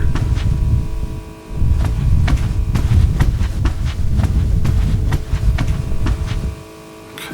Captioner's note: footsteps